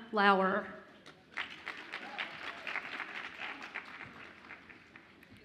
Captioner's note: audience applauds and cheers